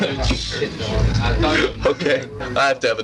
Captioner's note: laughing